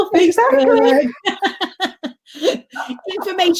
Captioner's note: laughing